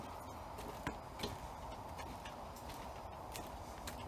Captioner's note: footsteps tapping